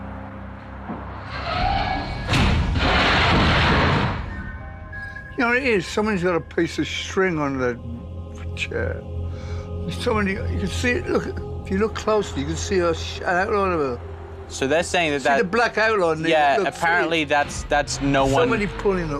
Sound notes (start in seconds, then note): 1.2 loud scratching